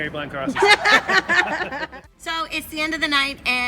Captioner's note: laughing